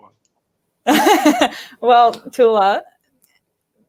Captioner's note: laughing